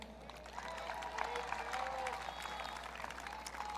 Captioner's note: audience cheering